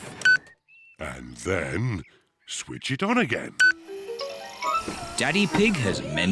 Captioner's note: beeps; beeps